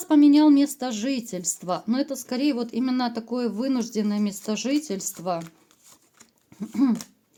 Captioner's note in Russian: откашливается